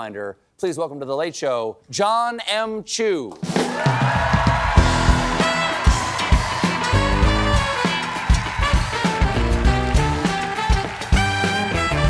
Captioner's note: cheers and applause